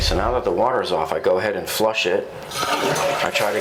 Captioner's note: toilet flushes